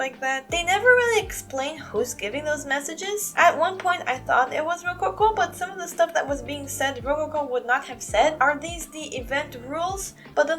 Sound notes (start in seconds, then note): none